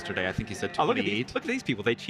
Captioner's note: speaks faintly